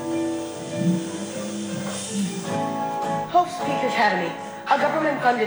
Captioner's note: none